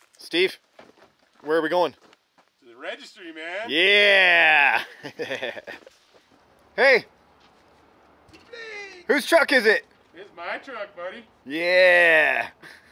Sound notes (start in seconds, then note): 4.1 laughs; 12.7 laughter